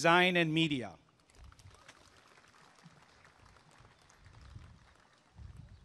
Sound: applause and cheering

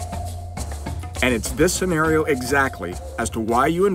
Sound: voiceover

